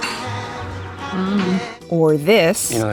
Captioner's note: Tree makes an 'I don't know' sound